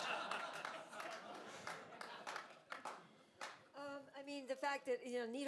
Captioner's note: all laughing; audience applauding